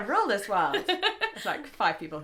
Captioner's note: laughs